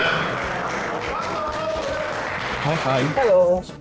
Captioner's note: applause